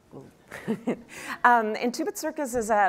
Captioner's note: laughing